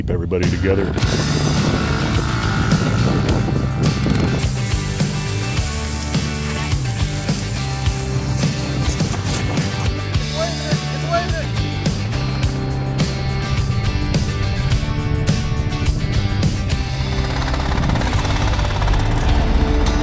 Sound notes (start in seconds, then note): 0.3 motorbike engine roaring; 0.3 upbeat rock music; 4.2 BBQ sizzling; 7.9 foot pattering; 11.1 upbeat rock music continues; 16.7 engine humming